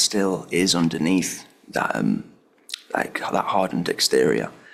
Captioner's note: none